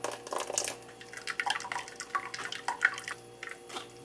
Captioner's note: dripping